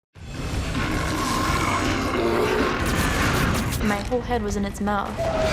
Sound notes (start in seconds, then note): 0.2 tense music; 0.7 bear growling